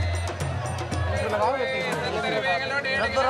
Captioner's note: foreign language spoken